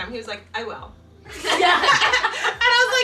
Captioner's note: family laughs